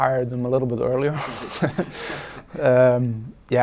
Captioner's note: laughing